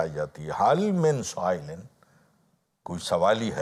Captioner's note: Arabic